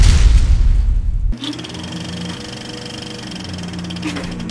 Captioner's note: movie reel rolls